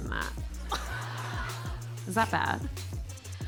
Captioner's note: audience laughing